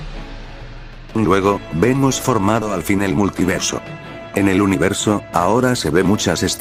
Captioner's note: sound of immense explosion